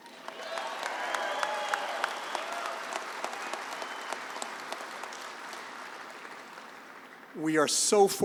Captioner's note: applause